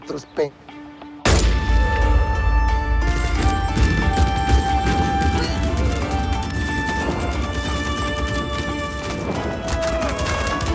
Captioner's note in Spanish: Disparos